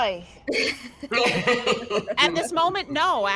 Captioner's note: all laugh